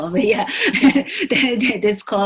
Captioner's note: laughing